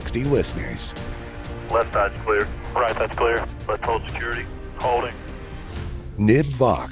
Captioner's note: radio audio